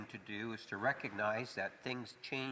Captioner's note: speaking French